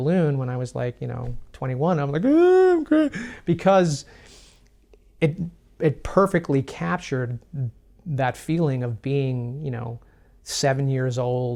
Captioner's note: imitates crying